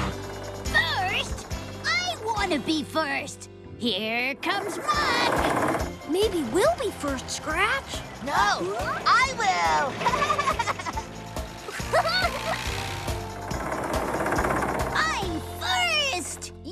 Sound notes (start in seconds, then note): 10.0 laughs; 11.6 giggles